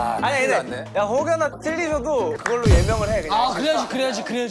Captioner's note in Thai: ฟ้าผ่าลงกลางวง